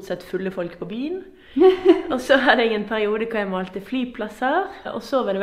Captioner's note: haha